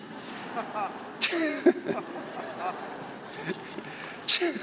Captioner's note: audience laughing